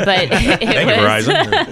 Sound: everyone laughing

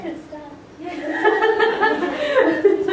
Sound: laughter

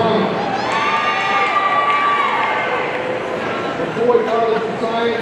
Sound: audience cheering

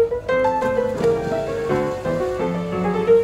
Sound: splash

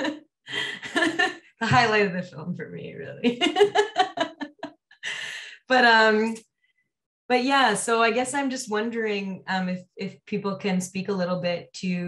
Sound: laughs

